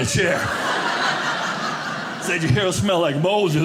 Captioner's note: audience laughing